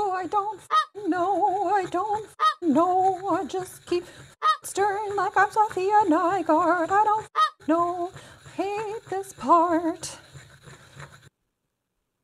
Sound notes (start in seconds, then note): 0.7 goose honking; 4.4 goose honking; 7.3 goose honking